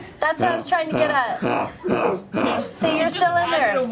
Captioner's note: mechanical laughter